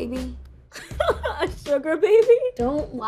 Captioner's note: laughs